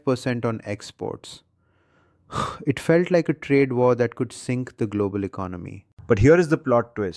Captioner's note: exhales sharply